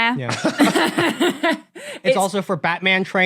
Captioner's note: Tom Scott and Ella laugh